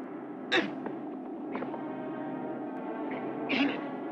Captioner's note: man grunting